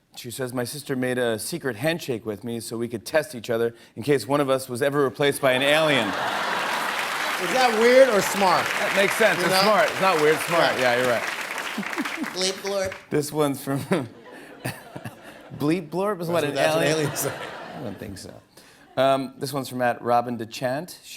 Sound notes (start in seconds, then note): 13.7 laughter